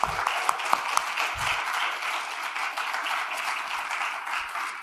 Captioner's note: applause